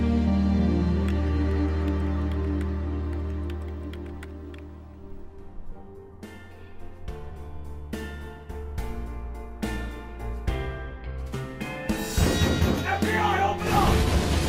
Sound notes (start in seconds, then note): 12.0 banging